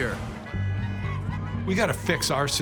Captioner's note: car horn honking